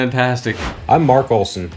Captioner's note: whooshing